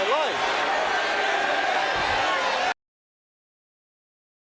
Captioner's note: audience cheering